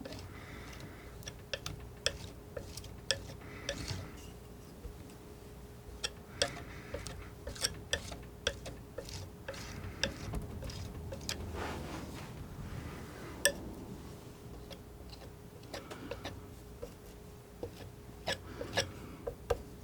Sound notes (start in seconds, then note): 4.3 scraping